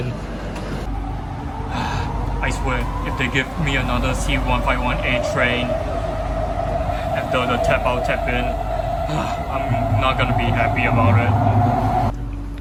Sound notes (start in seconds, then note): 1.6 sigh